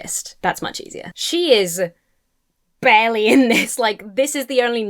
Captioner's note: chuckles